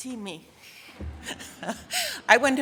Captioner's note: audience laughing